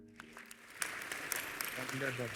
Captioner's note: applause